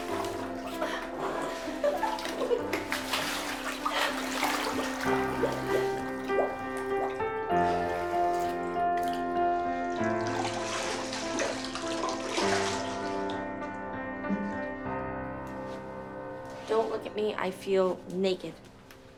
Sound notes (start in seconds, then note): 1.5 laughter